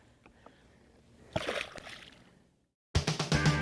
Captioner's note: water splashing; lively music